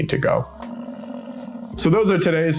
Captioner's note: buffalo grumbling